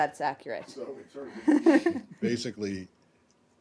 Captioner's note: laughter